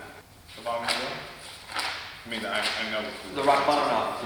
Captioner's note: pages rustling